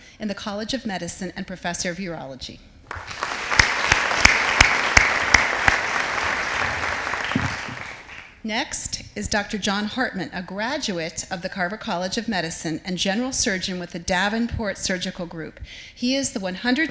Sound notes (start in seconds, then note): 2.8 audience applauding